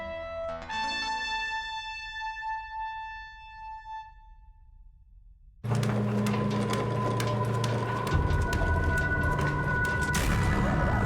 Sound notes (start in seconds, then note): 5.6 treadmill whirring; 5.6 eerie music; 10.2 dramatic music